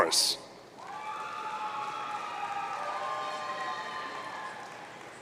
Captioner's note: audience cheering